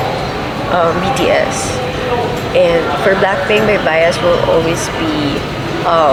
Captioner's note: laughs